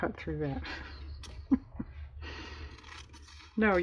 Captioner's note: laughs